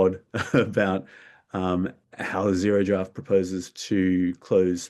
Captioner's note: chuckles